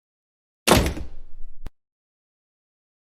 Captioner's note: door Slams